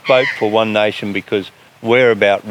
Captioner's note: eagle screaming